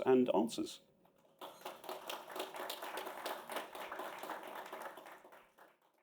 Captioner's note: applause